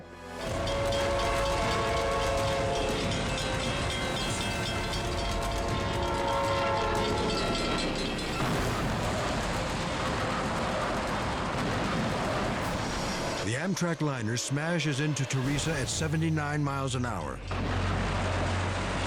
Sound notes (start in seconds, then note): 0.3 horn wails; 0.5 bell rings; 2.6 tense music; 4.8 horn wails; 8.0 crash thundering; 17.5 crash thundering